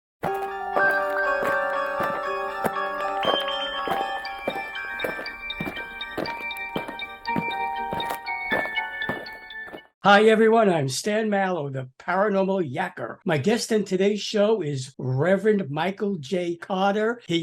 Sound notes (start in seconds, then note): 0.0 eerie music; 3.2 aliens marching